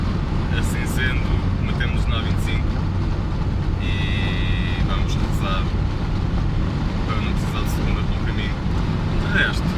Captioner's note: motorway